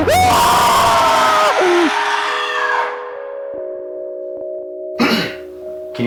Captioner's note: man frantic screaming; deep screaming